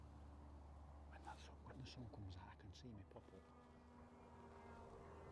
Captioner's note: whispering